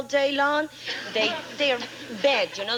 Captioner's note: audience laughing